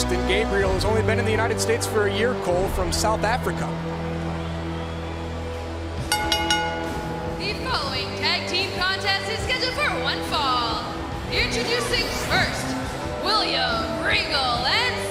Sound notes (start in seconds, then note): 6.0 bell ringing